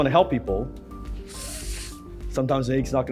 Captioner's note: loudly inhales